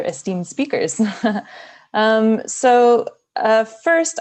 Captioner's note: giggles